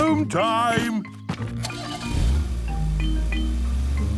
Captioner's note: engine starting